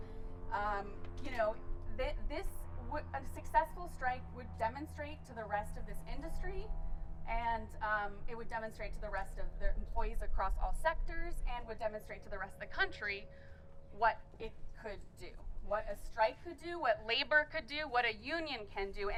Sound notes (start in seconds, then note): none